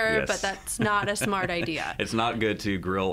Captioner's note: laughs